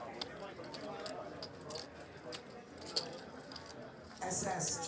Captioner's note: poker chips clacking